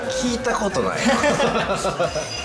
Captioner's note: laughs